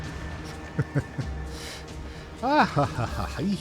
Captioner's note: laughs